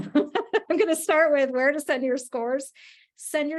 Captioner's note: laughs